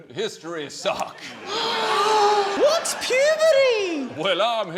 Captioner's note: gasps